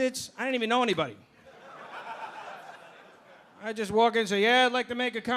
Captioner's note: audience laughing